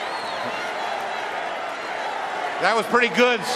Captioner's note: cheering and applause